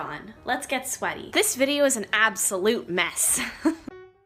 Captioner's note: chuckles; chill music plays faintly